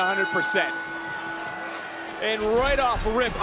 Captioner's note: bell rings